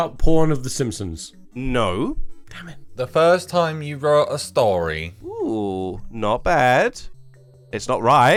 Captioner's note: whispered